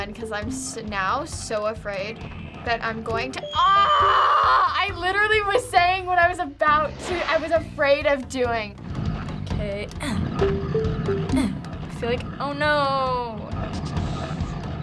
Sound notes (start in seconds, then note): 10.0 grunts